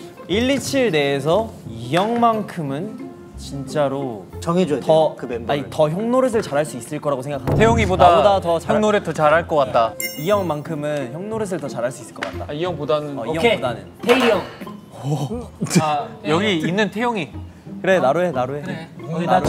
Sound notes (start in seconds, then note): 14.8 ? Laughing